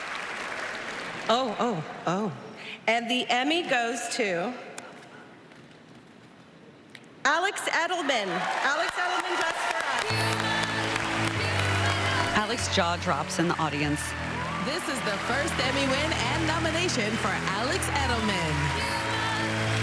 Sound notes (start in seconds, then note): 18.1 applause